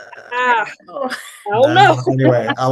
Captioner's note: chuckles